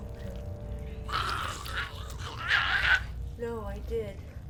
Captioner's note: Giree snarls